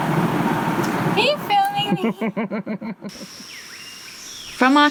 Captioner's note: laughter